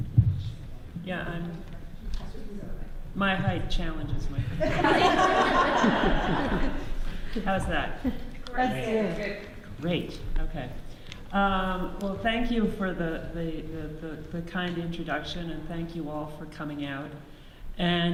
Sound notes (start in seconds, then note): 4.5 audience laughs; 9.8 audience reassures